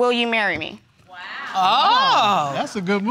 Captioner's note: audience exclaiming